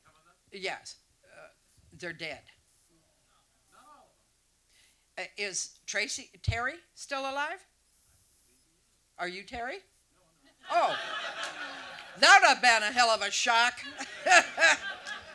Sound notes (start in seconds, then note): 10.7 audience laughs